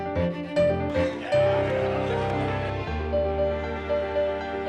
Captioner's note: chatter